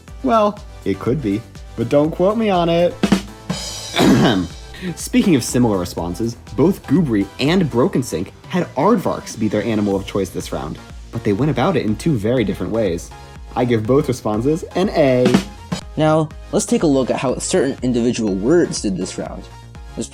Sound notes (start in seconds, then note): 3.0 rimshot SFX; 3.6 coughing; 15.2 rimshot SFX